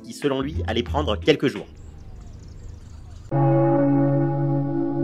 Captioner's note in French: Cloche d'église